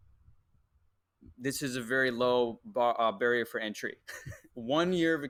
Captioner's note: laughs